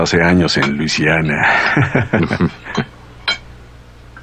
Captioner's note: chuckling